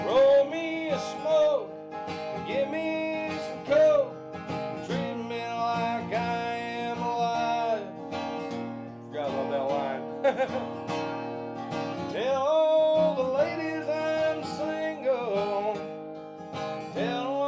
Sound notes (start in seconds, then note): 10.0 laughing